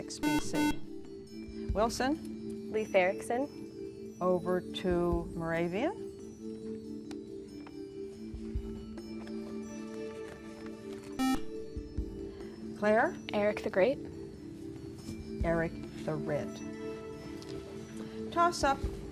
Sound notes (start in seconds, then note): 11.2 beep